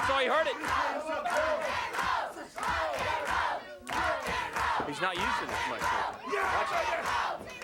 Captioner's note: applause